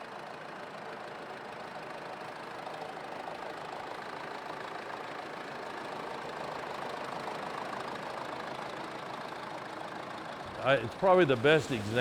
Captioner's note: tractor running